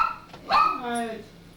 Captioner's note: dog barks